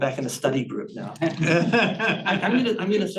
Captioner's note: audience chuckling